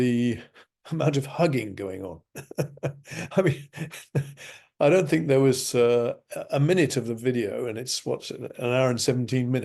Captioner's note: laughs